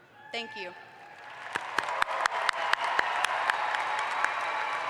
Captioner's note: audience applauds